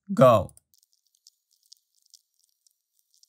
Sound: sped-up sounds

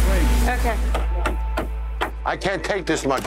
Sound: hand hitting table

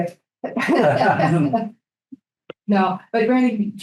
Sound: group laughing

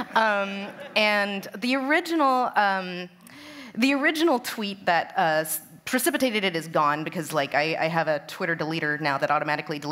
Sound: laughter

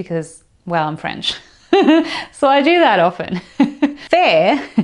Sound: chuckles

